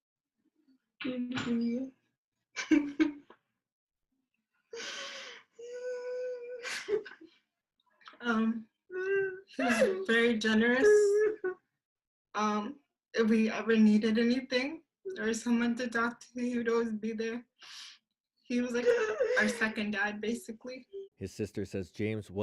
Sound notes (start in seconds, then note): 11.0 crying